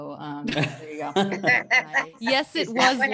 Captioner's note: laughs